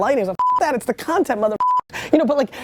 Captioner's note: beep